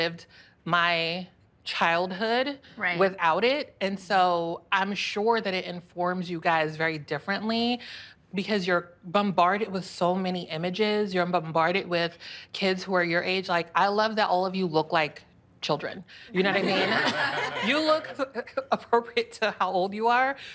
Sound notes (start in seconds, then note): 16.4 laughter